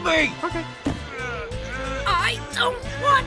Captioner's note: all straining